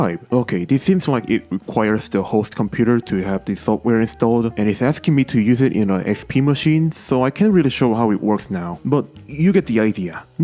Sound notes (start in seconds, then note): none